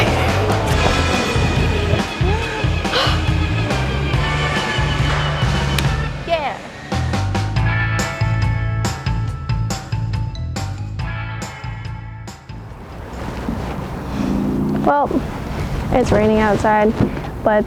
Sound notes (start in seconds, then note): 0.2 laughing; 2.5 upbeat music; 5.4 hands clap; 7.2 upbeat music